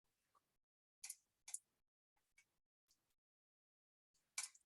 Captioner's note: mouse clicking